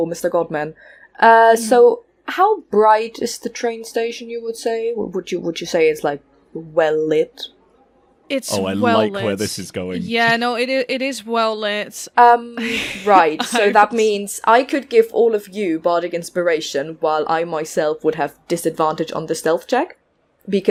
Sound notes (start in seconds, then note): 12.6 laughs